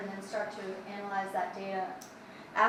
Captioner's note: none